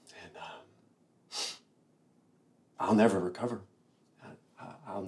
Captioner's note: sniffs